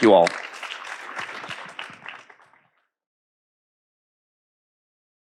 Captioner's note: audience applauding